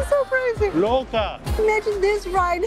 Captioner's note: in Portuguese